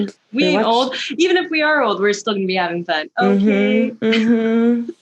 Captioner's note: mhm!